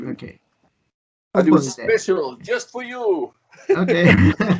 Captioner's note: laughs